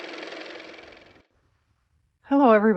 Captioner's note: car motor